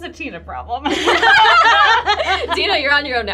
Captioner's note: group laughs